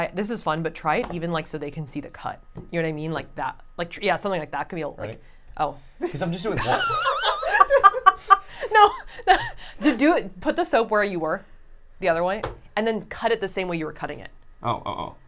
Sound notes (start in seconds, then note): 6.5 laughing